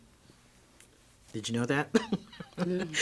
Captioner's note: laughs